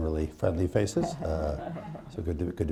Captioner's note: laughter